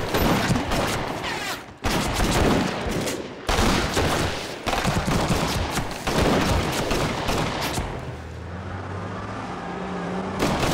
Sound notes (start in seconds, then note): 0.2 gun firing; 3.4 exchanging gun fire